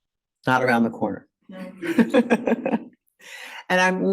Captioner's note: laughs